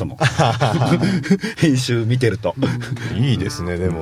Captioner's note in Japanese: 笑い